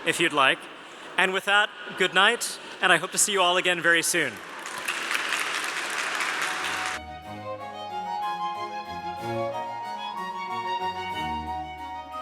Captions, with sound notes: if you'd like. And with that good night. And I hope to see you all again very soon. (applause) (gentle music)